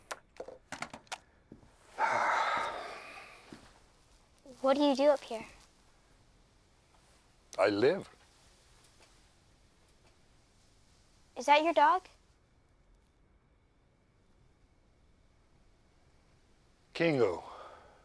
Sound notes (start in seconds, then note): 1.9 Hatcher sighs